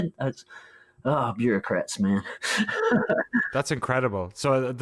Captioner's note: laughs